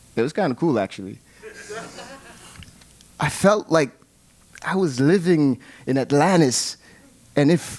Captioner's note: laugh